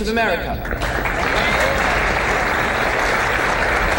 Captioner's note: crowd applauds